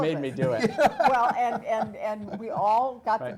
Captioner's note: laugh